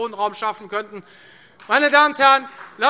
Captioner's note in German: Beifall Freie Demokraten